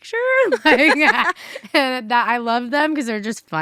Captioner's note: laugh